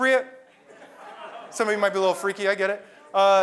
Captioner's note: laugh